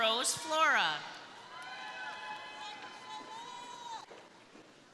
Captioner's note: crowd cheering